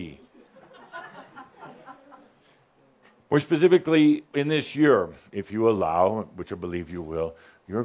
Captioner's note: a couple of giggles